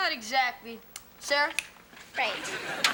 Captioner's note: Ethan snaps fingers